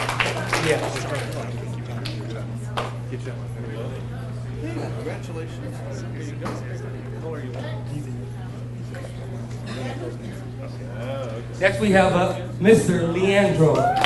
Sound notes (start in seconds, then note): 1.7 people chattering; 7.9 people chattering